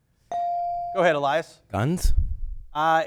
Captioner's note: bell dings